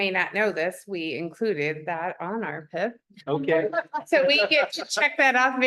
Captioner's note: laughter